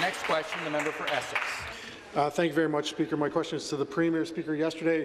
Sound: applause

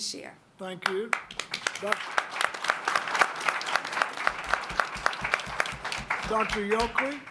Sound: applause

